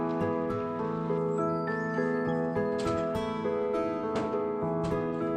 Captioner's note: door squeaks, closes